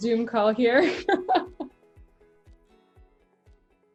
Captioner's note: laughs